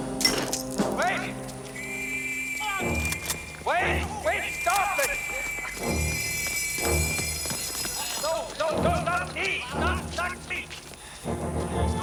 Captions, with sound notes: WAIT! [WHISTLE BLOWING] WAIT! WAIT! STOP IT! [ALARM SOUNDING] NO. NO, NO. NOT ME. NOT ME.